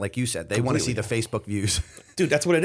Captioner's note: chuckle